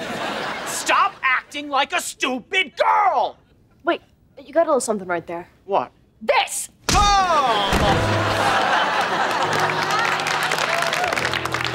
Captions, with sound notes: Stop acting like a stupid girl. Wait, you got a little something right there. -What? -This! [grunting] [clapping]